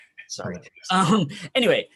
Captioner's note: chuckling; murmurs